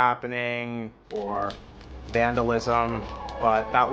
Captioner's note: fire crackling